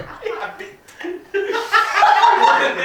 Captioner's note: laughs